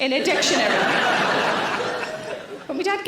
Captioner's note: audience laughing